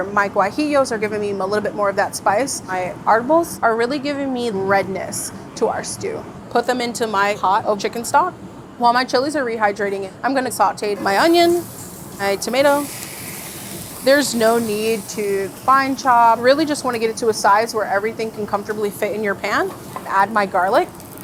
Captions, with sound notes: my guajillos are giving me a little bit more of that spice. My arbols are really giving me redness to our stew. Put them into my pot of chicken stock. While my chilies are rehydrating, I'm gonna saute my onion, my tomato. [pan sizzling] There's no need to fine chop. Really just wanna get it to a size where everything can comfortably fit in your pan. And add my garlic.